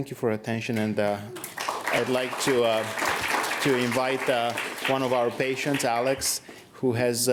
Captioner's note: applause